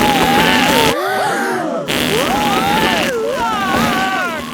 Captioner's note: both screaming; crowd gasps; screaming